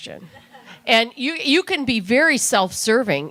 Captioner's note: laughter